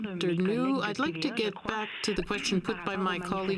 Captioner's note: speaking French